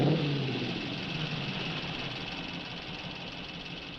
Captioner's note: engines idling